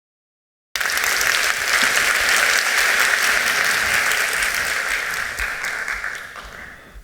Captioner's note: applause